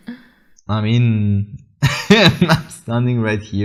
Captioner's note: chuckles